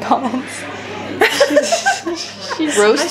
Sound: laughs

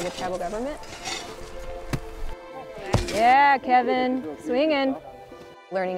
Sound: shoveling and thud sounds

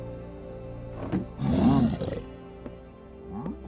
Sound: growling

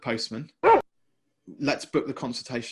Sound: dog barking

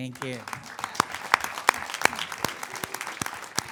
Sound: claps

